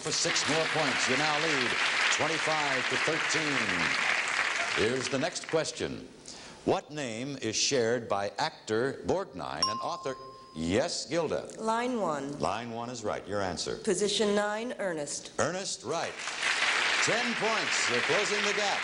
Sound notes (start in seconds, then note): 2.8 audience clapping; 9.6 ringing bell; 16.1 audience clapping